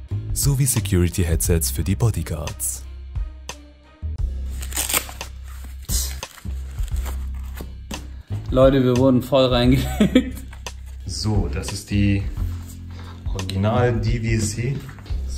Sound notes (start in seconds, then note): 9.8 laughs